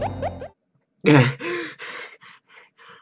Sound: panting heavily

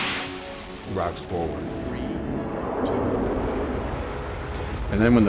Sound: shuttle Thrusters rumbling

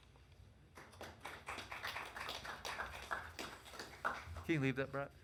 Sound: audience clapping

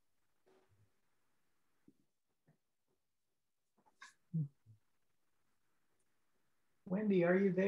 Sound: silence

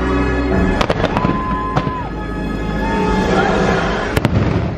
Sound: fireworks popping

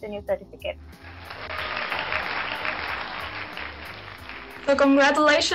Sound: crowd cheering

